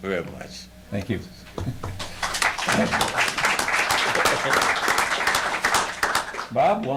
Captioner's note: audience applauds